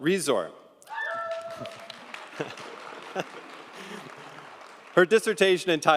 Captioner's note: audience applauding